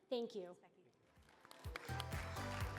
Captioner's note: applause